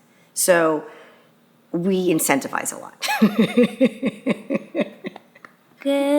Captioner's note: laughing